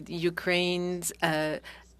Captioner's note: speaking French